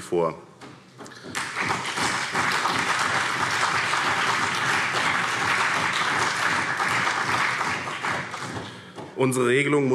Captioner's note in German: Beifall CDU und BÜNDNIS 90/DIE GRÜNEN